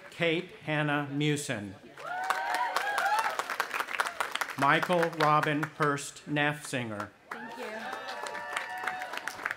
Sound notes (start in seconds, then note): 2.0 audience applauding and cheering; 7.3 cheering